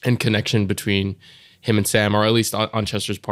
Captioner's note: none